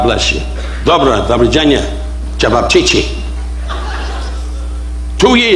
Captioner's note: Don speaking foreign language